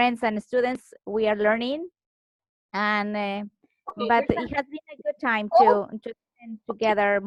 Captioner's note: murmurs